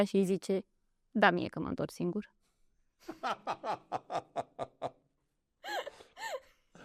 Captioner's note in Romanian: Râsete